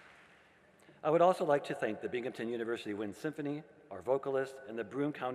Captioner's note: applause